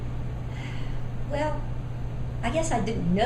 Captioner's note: sighs